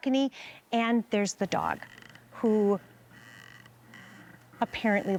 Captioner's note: rocking chair creaking